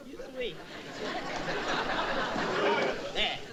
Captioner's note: audience laughing